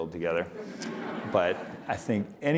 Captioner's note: audience laughing